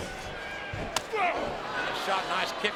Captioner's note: foot thuds; Kane grunts